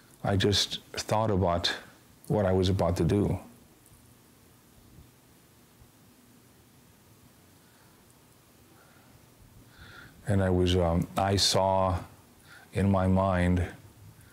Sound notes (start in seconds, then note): none